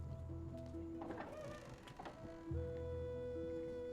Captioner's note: door opens